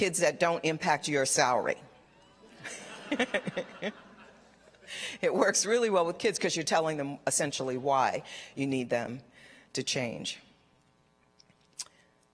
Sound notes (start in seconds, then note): 2.4 laughter